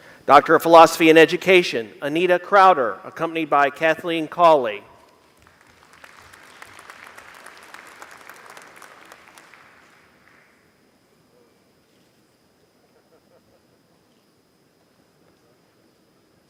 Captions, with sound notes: Doctor of Philosophy in Education. (Applause)